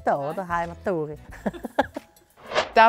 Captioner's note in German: lacht